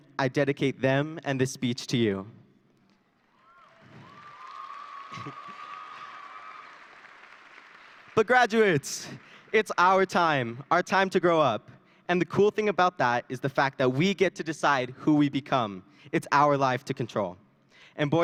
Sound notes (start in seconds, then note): 3.2 audience cheering and applauding